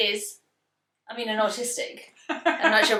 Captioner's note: laughs